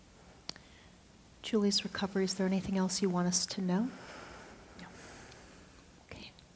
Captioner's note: whispers